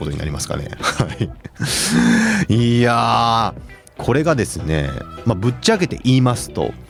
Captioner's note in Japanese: 笑い